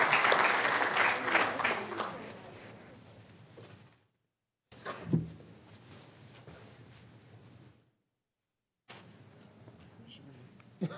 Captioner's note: applause